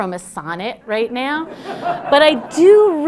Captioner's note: laughter